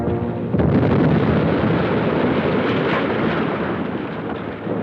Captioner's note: dynamite explodes